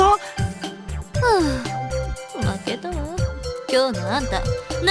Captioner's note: sigh